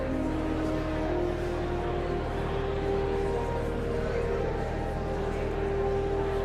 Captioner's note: whimsical organ music continues; audience chattering continues